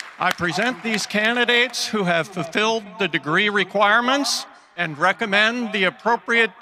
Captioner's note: cheering and applause